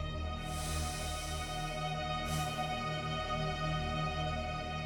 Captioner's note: sniffing